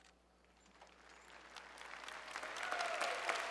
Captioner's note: applause